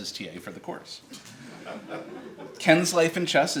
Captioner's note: audience laughs